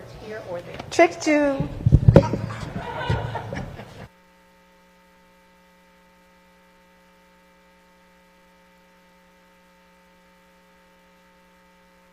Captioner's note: laughter